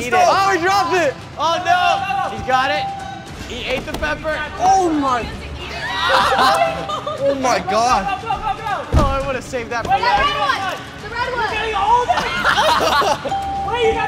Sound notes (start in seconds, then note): 6.0 laughs; 12.0 laugh